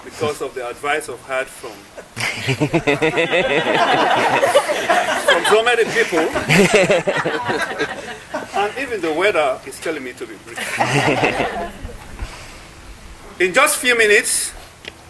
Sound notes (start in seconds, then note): 1.9 laughing; 10.5 laughing